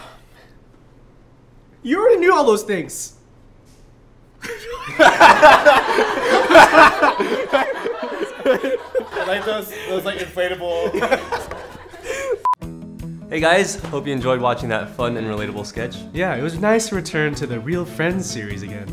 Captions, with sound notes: You already knew all those things! *laughing* Like those, those like inflatable Hey guys! Hope you enjoyed watching that fun and relatable sketch Yeah, it was a nice return to the real friend series again.